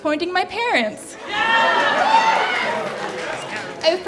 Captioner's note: cheering